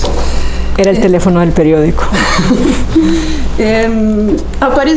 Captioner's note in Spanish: Se ríe